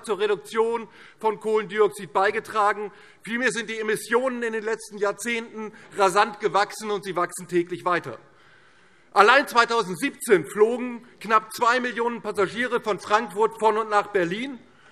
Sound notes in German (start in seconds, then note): none